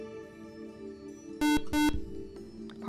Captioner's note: buzzer